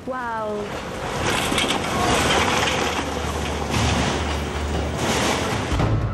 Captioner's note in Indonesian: suara gemuruh gempa